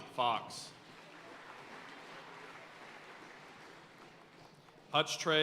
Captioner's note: audience cheering and applauding